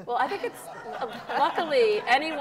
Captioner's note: audience laughs